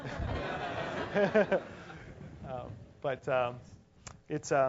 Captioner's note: laugh